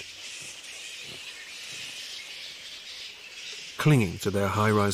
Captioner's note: squeaking